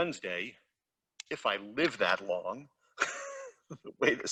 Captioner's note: laughs